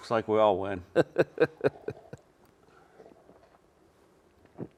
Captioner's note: laughing